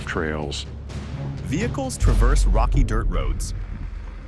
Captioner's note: engine growls